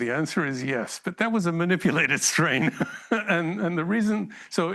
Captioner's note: laughs